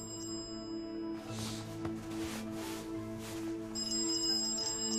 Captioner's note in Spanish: Suena el celular